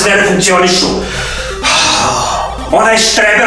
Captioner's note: sighs